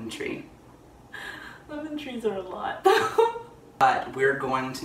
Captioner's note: laughter